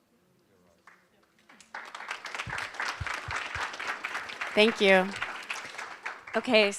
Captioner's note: applause